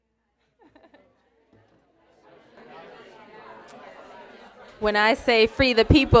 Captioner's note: laughter